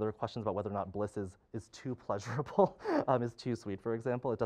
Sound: laughing

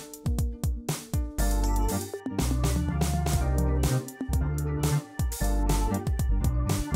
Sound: none

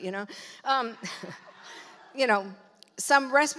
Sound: audience laughs

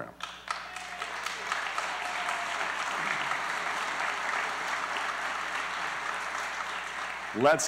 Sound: applause

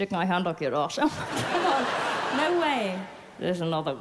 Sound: laughs

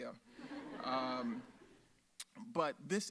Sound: audience laughs

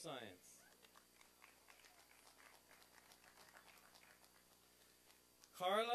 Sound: applause and cheering

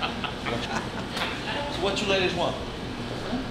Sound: laughing

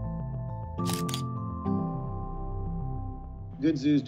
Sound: camera clicking

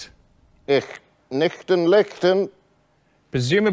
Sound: in a bad German accent

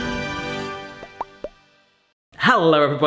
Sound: intense music; popping

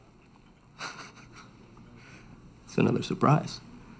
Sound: Jake chuckles

